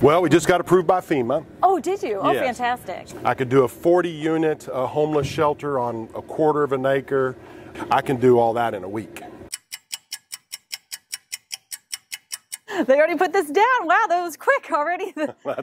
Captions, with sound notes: - Well we just got approved by FEMA. - Oh did you? - Yes. - Oh fantastic. - I could do a 40 unit a homeless shelter on a quarter of an acre. I can do all that in a week. (clock ticking) - They already put this down wow that was quick already.